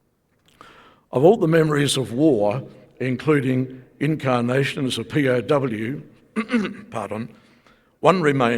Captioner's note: coughs